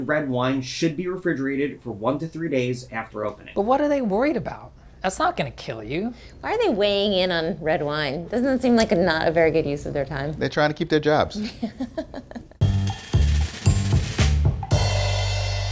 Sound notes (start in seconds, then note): 11.4 laughing; 12.6 upbeat music